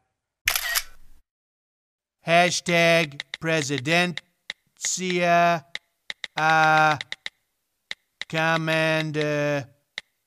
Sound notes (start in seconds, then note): 0.4 phone snaps a photo; 1.5 sound of entering text